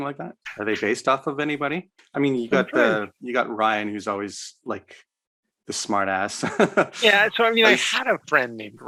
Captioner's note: laughs